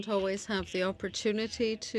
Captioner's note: speaking French